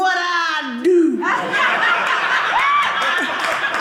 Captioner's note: audience laughing